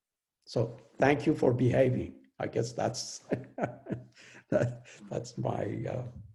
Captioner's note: laughs